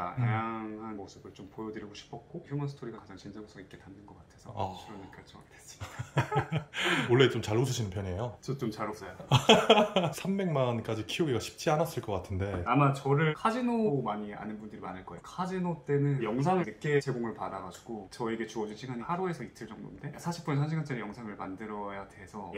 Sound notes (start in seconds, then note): 9.2 haha